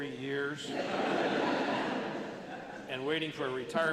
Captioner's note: laughter